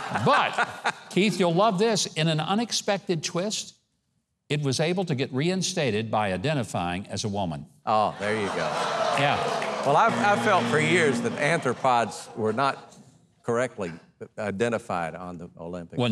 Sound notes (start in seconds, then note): 0.0 laughing; 8.0 audience laughing; 10.0 buzzer buzzing